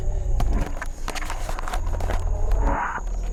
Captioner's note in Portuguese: Camera shuffling